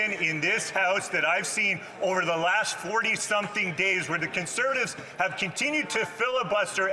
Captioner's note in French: voix de l'interprète